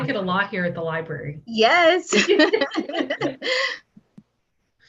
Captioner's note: laughter